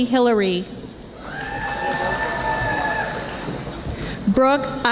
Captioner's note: audience applauding